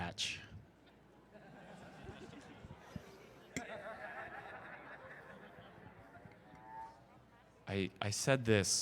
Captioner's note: crowd Laughter